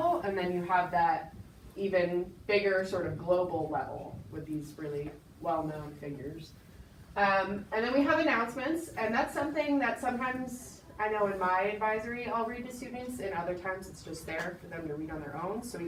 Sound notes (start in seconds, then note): none